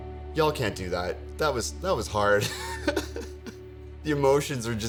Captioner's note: chuckles